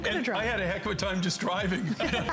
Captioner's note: laughter